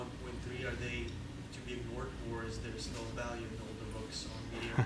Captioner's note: speaking off microphone; chuckles